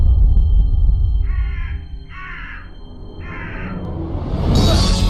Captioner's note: bird caws